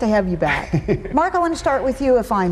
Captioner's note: laughs